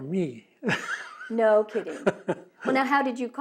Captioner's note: laughs